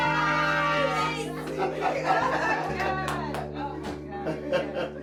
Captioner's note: laughter